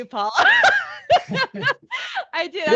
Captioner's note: laughing